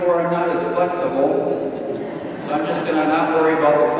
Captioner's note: audience laughs